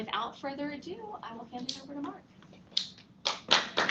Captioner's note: applause